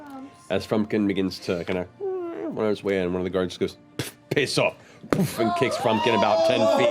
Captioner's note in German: miauend